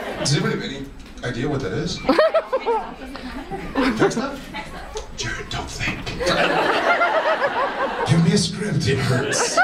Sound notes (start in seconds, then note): 0.0 audience laughs; 5.1 whispering; 6.0 audience laughs